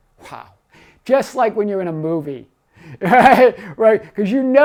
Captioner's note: laughs